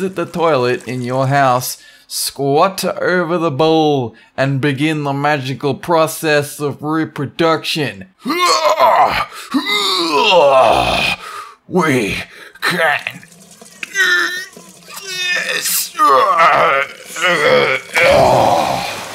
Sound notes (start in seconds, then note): 17.1 sploosh